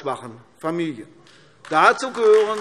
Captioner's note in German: Beifall AfD